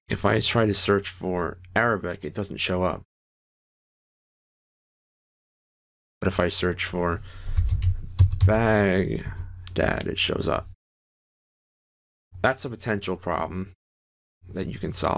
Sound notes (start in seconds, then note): 7.5 typing